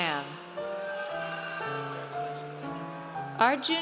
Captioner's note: audience cheers